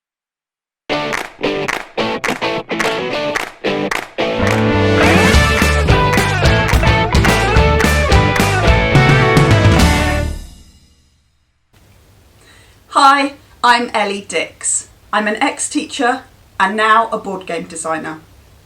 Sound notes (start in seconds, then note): 1.0 claps